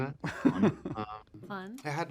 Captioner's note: laughter